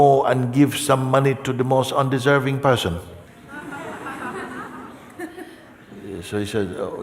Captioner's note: Lachen